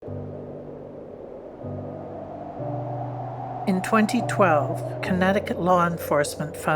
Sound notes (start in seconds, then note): 0.0 soft music; 0.0 wind whooshing